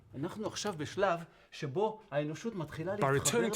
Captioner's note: speaking Hebrew